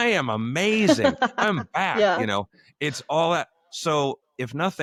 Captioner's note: laughter